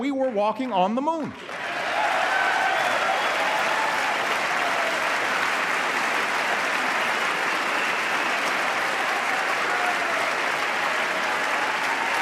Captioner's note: applause